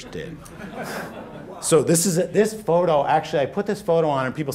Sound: laughter

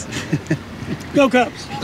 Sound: laughs

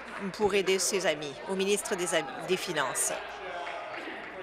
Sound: applause

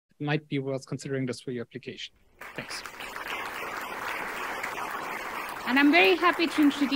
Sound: crowd clapping

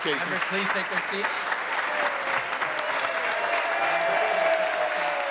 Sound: applause

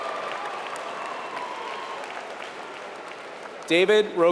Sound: applause

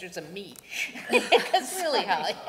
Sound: laughter

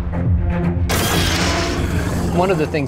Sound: monster roars

